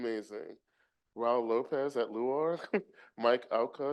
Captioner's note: chuckles